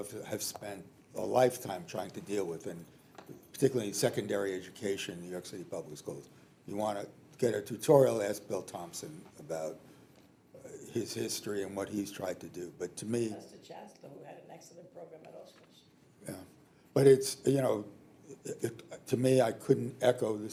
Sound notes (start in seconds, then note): 13.9 speaking distantly